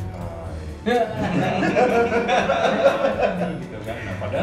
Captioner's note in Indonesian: tertawa